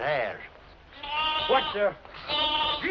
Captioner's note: bleating